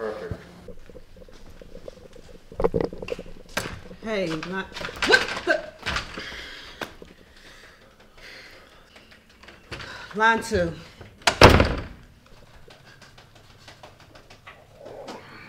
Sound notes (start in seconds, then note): 4.7 doorknob rattling; 8.1 woman breathing heavily; 11.2 door thudding